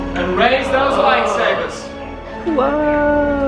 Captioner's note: everyone gasps